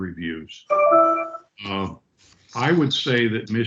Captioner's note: computer ding